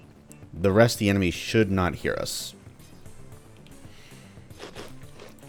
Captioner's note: more whacking